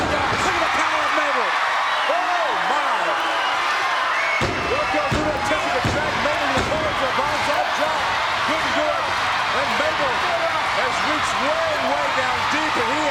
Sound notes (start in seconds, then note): 2.8 crowd cheering; 4.4 hands pounding